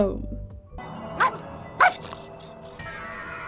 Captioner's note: Nevins barking